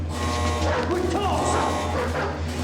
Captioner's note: dogs barking